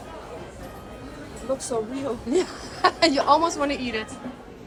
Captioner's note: laughter